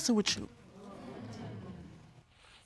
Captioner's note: audience awes